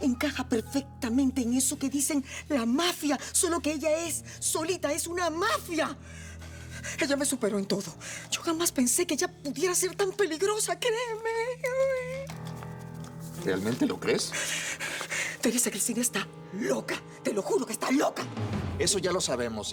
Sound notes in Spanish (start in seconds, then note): 10.9 Sollozos